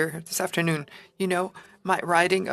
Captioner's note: speaking FRENCH